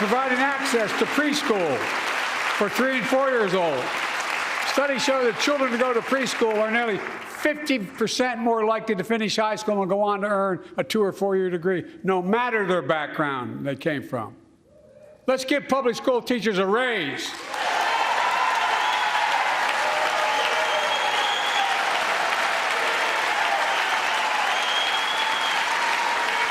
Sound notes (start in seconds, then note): 4.0 applause